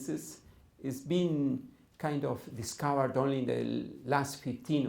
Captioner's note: none